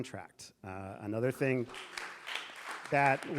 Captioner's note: audience applauding